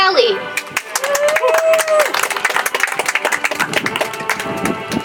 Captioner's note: audience applauds